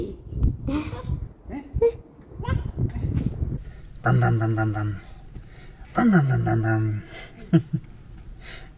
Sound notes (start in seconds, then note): 5.4 truck noises